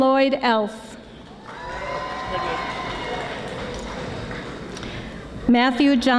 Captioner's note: audience applauding